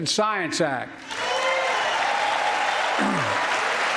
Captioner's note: applause